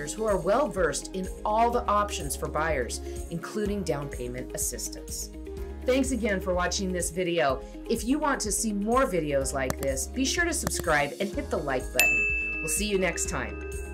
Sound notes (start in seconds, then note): 12.0 bell dings